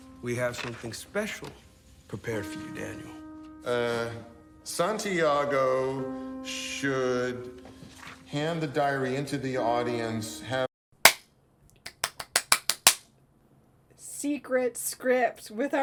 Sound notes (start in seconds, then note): 1.1 claps